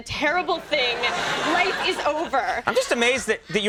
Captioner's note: audience laughs